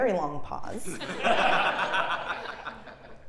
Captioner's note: laugh